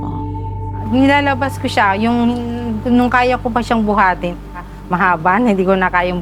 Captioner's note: speaking foreign language